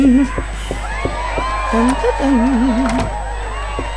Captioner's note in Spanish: tararea el tema musical del juego